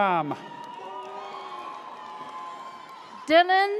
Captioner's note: audience cheers